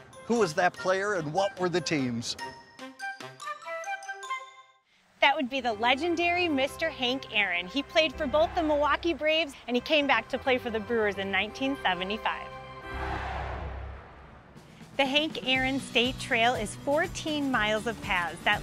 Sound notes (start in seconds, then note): 12.8 crowd cheering